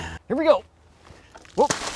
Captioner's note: yells